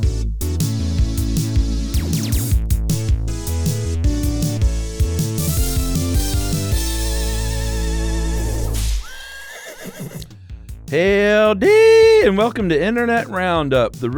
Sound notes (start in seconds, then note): 9.0 horse neighs